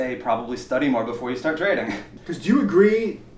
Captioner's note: laughs